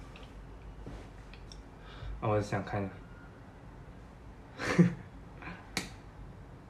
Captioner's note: sLAP